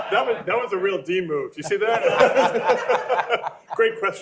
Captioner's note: laughter